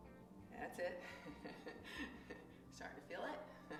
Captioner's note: chuckles